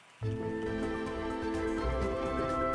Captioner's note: sounds of a little glade